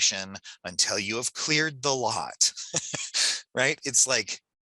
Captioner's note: laughs